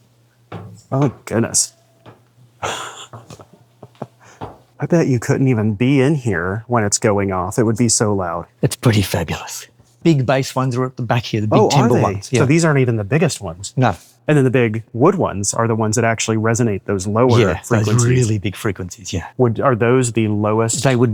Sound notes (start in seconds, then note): 2.6 chuckles